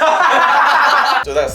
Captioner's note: laughs